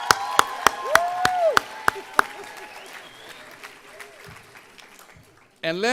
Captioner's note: applause